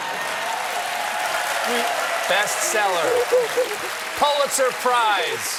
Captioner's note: cheers and applause